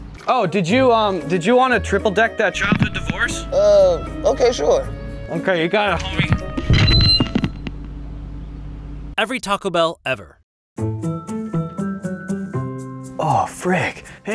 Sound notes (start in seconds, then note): 6.9 intercom whining; 8.6 engine roaring; 9.6 voiceover; 10.8 jaunty music